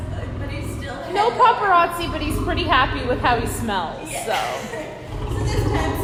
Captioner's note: laughing; lion growl